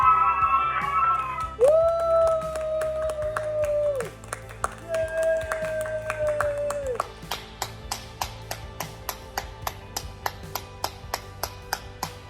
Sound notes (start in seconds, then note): 7.9 applauding